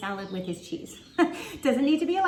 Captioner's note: laughs